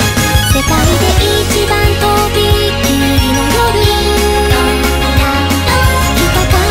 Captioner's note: ding dong dang dong